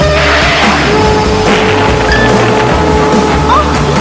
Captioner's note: crash!